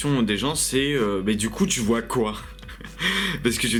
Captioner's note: hahah